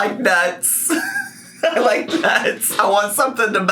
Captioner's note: laughs